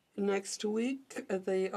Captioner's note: speaking French